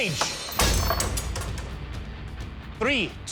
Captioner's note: crashing